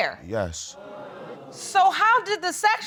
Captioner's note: audience exclaims